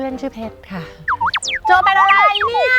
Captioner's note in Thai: เสียงเอฟเฟกต์